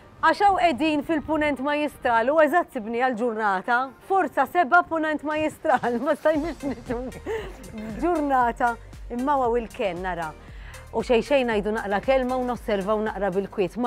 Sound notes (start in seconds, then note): 7.0 chuckles nervously